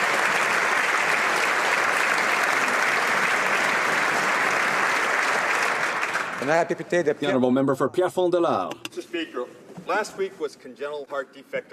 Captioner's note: applause